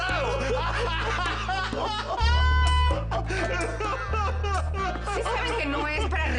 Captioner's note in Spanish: Carcajadas